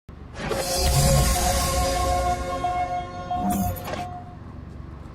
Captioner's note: energetic electronic swishes